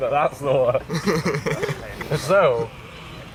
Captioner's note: laughter; more laughter